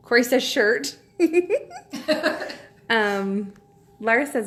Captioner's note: both laughing